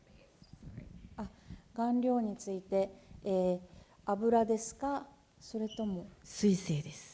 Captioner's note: speaking japanese